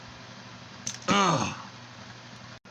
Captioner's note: Shockwave Exclaims